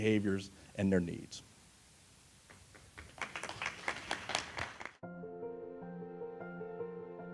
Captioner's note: applause